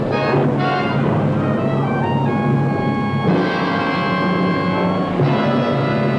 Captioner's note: growling; roaring